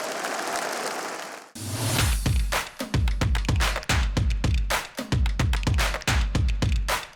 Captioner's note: audience applause